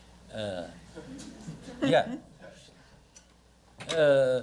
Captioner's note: audience chuckles